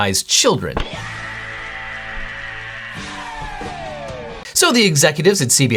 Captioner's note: rockstar screams